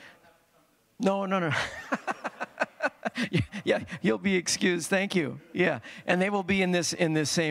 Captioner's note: laughter